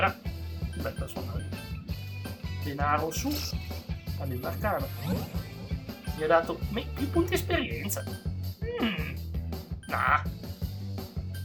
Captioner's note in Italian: schiarire la voce